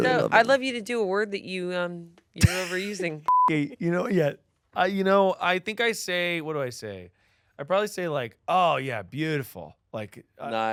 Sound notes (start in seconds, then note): 3.2 beep